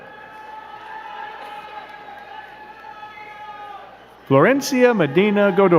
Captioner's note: crowd cheering and clapping